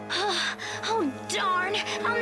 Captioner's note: panting